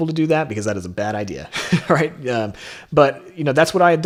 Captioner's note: laughs